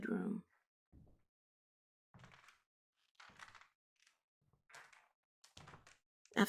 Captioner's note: the wooden floor creeks under the weight of slow footsteps